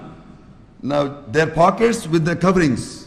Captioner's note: Arabic